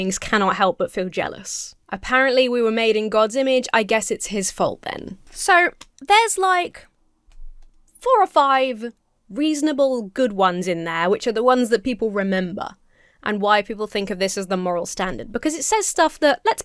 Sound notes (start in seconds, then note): none